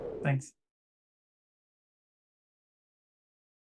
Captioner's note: silence